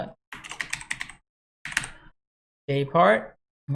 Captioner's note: keyboard clanks